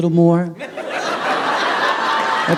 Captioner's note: laughter